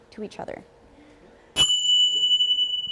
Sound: bell

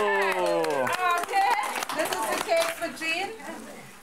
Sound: applause

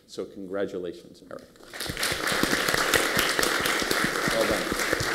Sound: applause

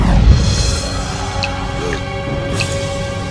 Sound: gasp!

